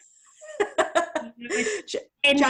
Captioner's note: laughter